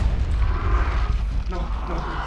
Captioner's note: creature moaning